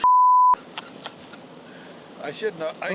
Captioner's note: laughter